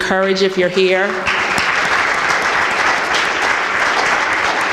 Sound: applause

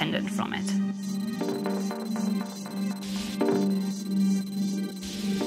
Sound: computer beeping

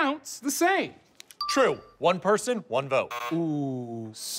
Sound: buzzer

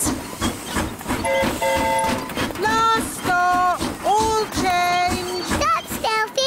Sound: train whistle blowing

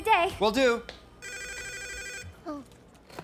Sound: phone rings

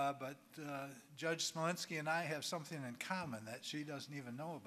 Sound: none

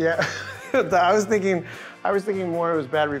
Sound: laughs

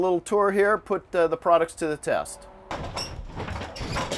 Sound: rumbling

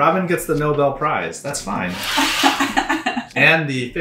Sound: laughs

